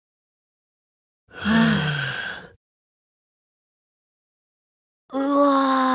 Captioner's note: sigh